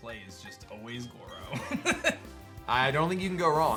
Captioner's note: chuckles